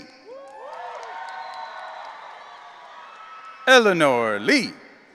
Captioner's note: audience cheering